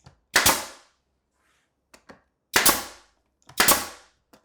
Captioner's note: nail gun clacking